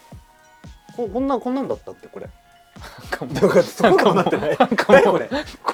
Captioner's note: laughs